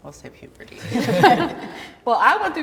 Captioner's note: everybody laughs